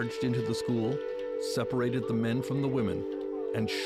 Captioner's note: speaking French